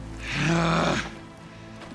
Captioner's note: growls